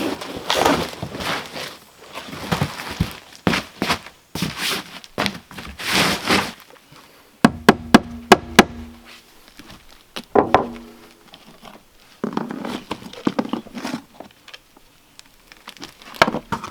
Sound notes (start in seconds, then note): 8.1 hammering